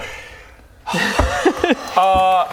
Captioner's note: melodramatic sigh